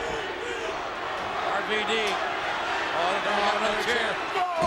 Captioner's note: crowd chanting